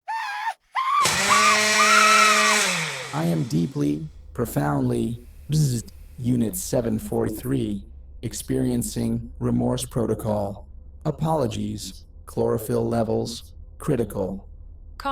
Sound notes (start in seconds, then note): 0.0 Veg Screaming in blender